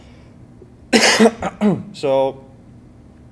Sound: cough

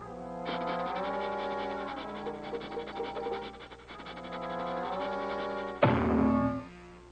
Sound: sniffing; head bonk

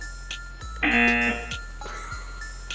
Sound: buzzer

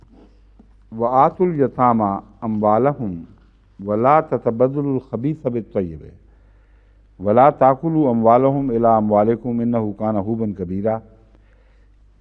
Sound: Arabic

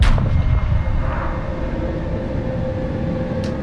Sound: gunshots and sound of a bullet

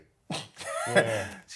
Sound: laughs

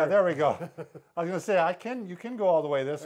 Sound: chuckles

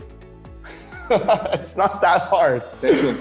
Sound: laughing

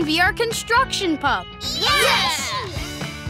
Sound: cheering

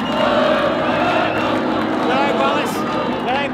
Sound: crowd chanting

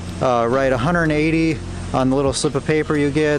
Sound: none

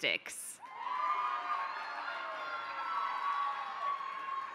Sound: applause

